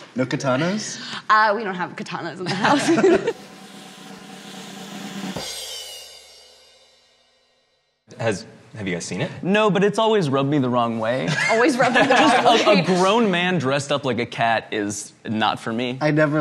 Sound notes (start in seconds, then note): 2.4 both laughing; 3.2 drumroll; 11.2 all laughing